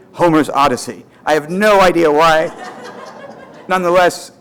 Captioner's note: audience laughter